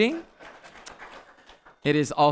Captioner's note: audience applauding